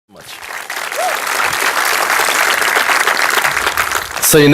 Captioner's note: audience applauding